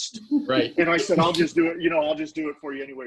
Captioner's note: laughing; snapping fingers